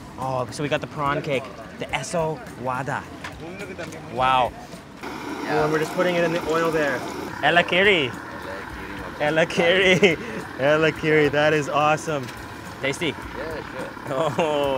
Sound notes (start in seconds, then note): 8.5 man speaks in foreign language; 9.4 speaks in foreign language